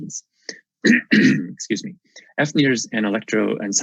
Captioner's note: coughs